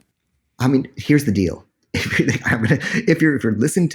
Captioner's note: laughs